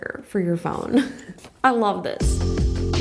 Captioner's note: chuckles; slow upbeat music